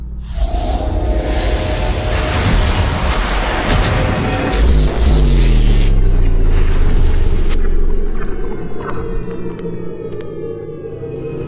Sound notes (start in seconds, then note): 4.4 electricity; 4.4 teleport goes off